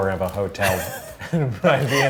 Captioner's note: laughing